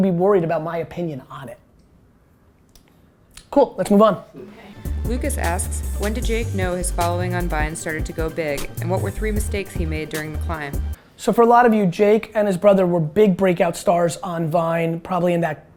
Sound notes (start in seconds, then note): 5.2 voiceover